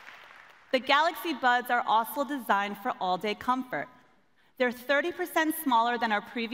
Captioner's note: applause